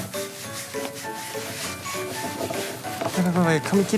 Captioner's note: rubbing